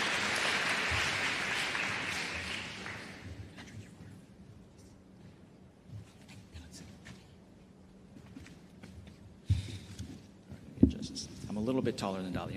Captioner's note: applause